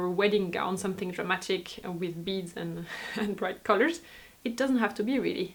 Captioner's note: laughs